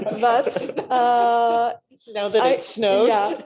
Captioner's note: laughter